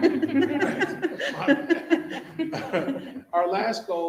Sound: members laughing

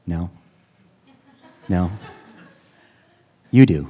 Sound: students laughing

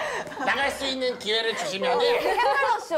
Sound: laughing

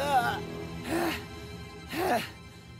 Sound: throwing up noises; deep sigh from Max

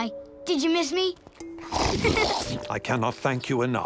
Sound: giggling

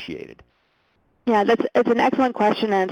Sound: voiceover

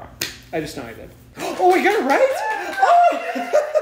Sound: gasps

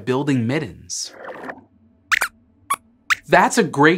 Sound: squeaks squeaks

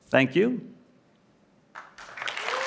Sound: applause

